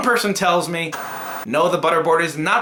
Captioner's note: static